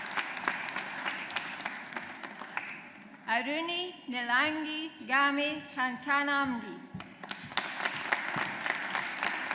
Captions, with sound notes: Aruni Nilangi Game Kankanamge. (AUDIENCE APPLAUDS)